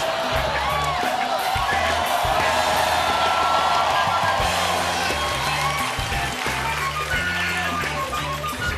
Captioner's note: cheering; band playing